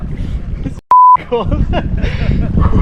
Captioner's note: beep